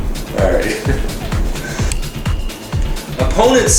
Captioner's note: laughs